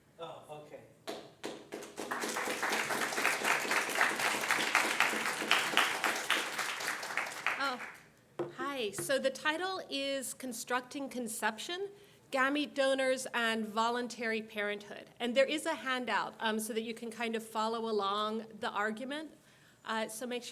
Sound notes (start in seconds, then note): 1.1 audience applauds